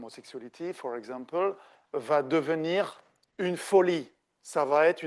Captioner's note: speaking French